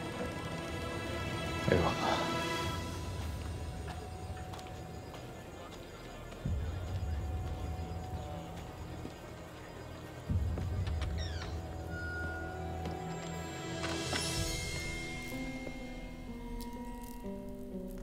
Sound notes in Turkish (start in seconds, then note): 4.3 Ayak sesi; 8.8 Müzik - Gerilim